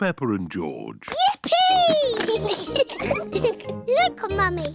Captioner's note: giggles